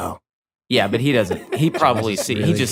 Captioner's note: laughs